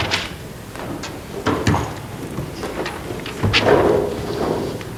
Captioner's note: group buzzing